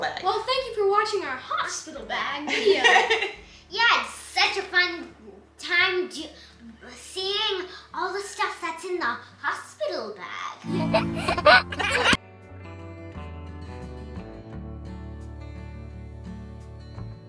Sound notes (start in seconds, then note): 10.7 baby laughs